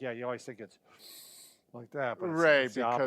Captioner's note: oxygen inhaling